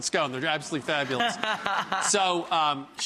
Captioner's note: laughs